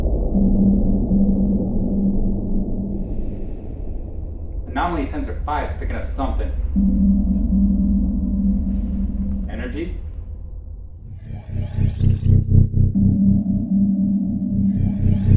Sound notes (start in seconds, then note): 0.3 spaceship whirring; 7.1 spaceship warbling; 11.4 ominous atmospheric music